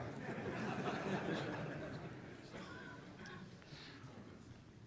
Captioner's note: audience laughing